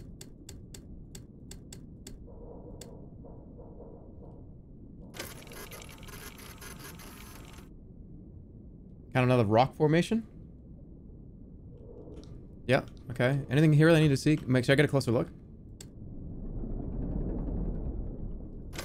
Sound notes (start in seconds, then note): 1.8 machine whirring